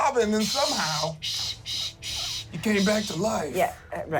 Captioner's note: shushes